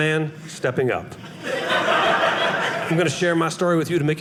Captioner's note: audience laughing